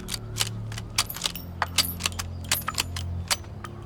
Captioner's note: gun clicking